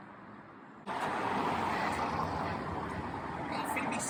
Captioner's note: cars driving